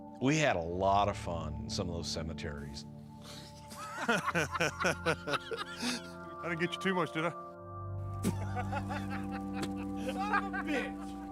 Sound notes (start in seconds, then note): 3.3 laughs; 8.2 group laughs